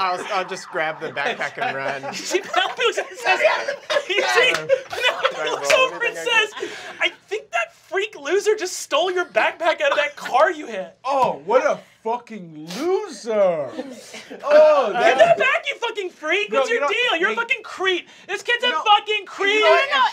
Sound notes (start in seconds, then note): 1.5 laughter; 3.4 laughing; 9.5 laughter